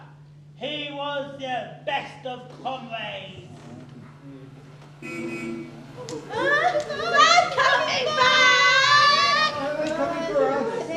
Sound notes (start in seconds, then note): 5.0 horn sounds